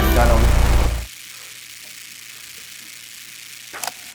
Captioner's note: Static